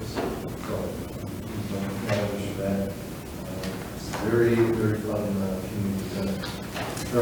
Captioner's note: speaks distantly